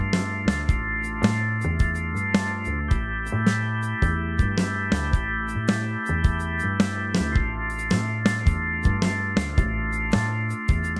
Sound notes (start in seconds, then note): 7.1 distortions